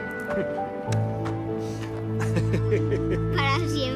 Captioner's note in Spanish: Risas